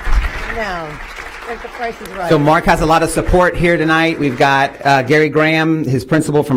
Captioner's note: applause